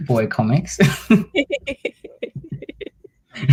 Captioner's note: laughs